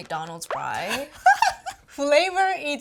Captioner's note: laughs